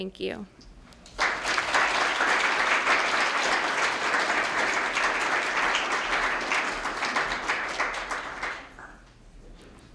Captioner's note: applause